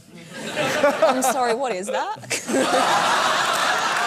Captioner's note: laughter